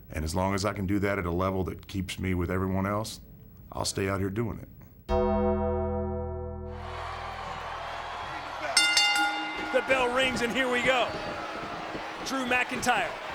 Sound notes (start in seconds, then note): 5.6 dramatic music; 6.7 crowd cheering; 8.6 bell ringing